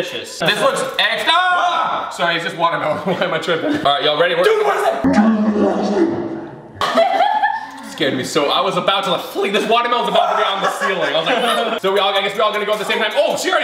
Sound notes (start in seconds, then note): 5.4 slow motion voices; 6.8 laughter; 10.0 laughs